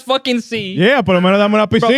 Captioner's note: speaking In Foreign Language